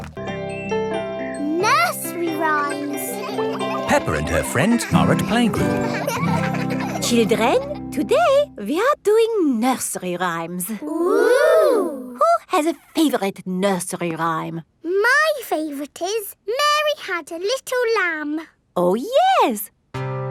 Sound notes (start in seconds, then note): 6.0 children laughing